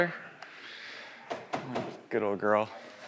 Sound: car thudding

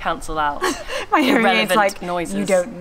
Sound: laughs

